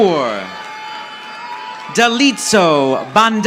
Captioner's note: audience applauding